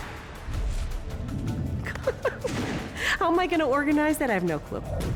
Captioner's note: laughs